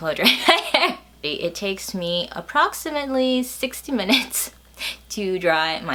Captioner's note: laughs; laughs